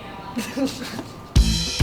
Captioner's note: both laugh; chill rock music